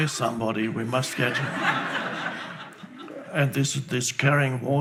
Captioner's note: laughing